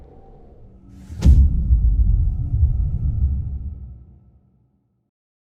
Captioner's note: dramatic sound